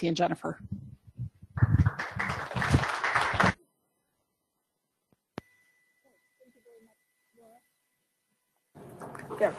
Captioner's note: applause